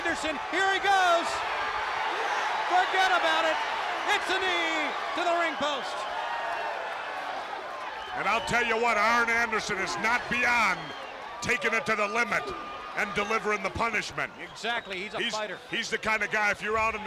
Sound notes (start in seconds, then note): 5.8 crowd cheering